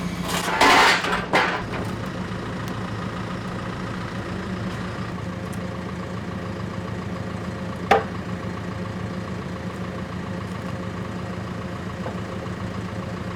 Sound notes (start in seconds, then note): 0.3 metal clanging; 7.9 board clanking; 8.1 engine idling